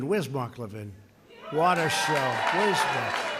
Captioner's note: applause